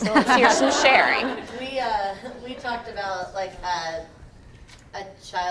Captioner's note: laugh